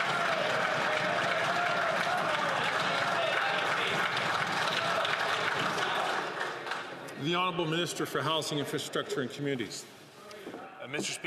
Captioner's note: some Applause